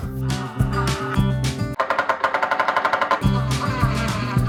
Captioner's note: drill whirs